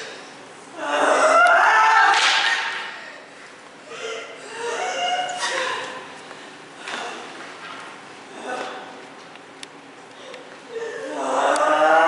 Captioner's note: CHORUS crying out